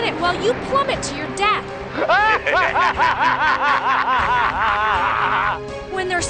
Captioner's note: laughing